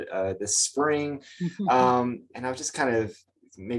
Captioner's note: chuckles